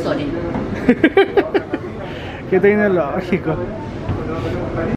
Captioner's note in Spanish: risas